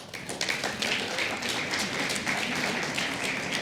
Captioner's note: applause